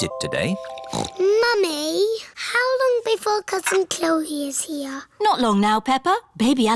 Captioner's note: snorts